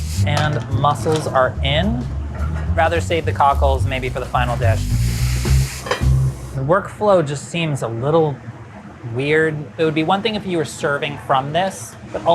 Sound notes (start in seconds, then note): 5.0 food sizzling; 5.4 lid clangs